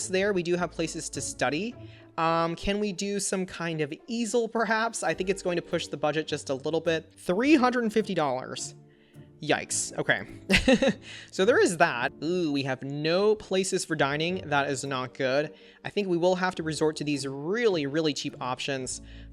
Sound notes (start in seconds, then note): 10.5 laughs